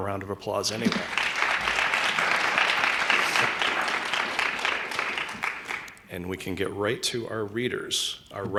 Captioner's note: applause